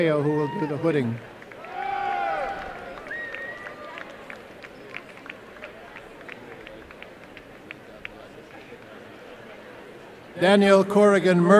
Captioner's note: applause and cheering